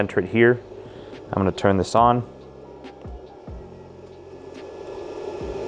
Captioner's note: machine whirring